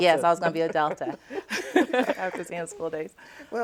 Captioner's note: laughs